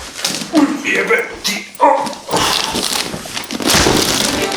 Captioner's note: moans and curses